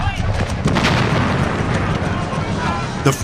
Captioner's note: explosion booms